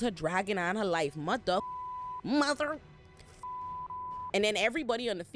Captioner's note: beep